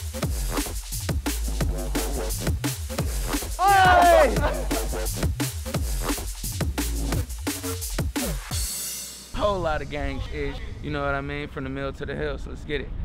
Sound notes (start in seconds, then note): 3.6 cheering